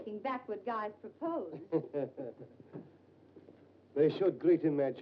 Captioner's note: Dr. Manetta chuckles